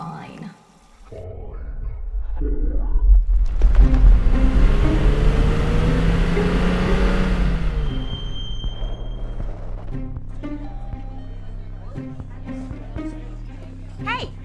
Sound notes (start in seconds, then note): 3.9 engine roaring; 7.9 brakes squealing; 10.8 bell ringing; 12.3 gentle music